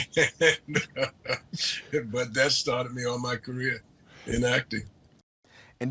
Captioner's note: laughs